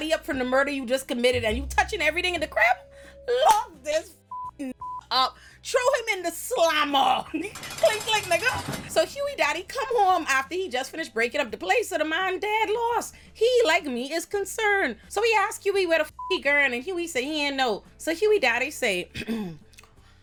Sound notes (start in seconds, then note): 4.2 beep; 16.2 beep